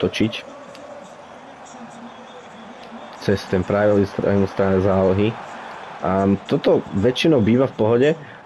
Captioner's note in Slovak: Potlesk